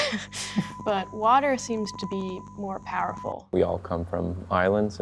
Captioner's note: laughs